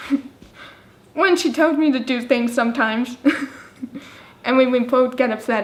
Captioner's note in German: lacht